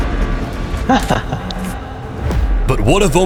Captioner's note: chuckles